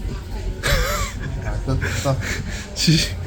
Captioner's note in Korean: 웃음 터짐